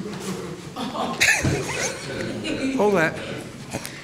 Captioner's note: crowd laughing